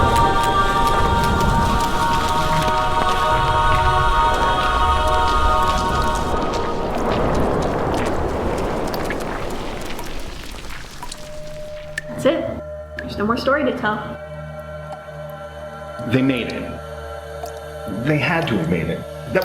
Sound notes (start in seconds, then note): 2.1 fire crackling